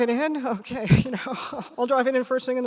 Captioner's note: laughs